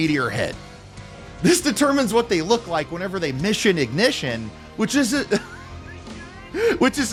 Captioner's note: laughter